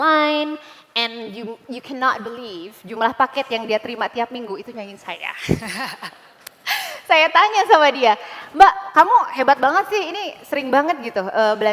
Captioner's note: non-english speech